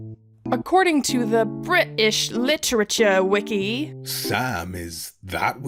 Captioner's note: in a terrible accent